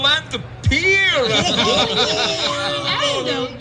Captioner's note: laughter